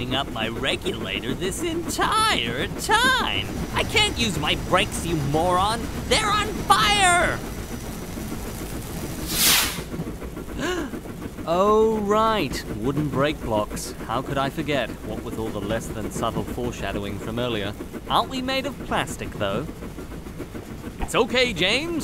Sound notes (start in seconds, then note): 10.6 gasp